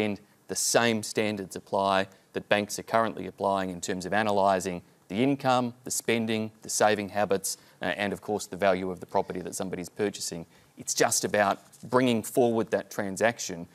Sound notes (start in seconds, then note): none